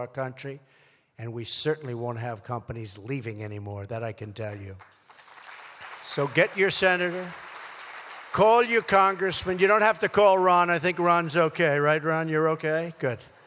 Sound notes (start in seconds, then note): 4.6 applause